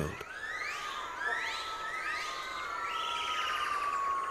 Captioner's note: high-pitched gibbon calls